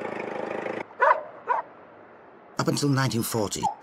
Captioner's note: dog barking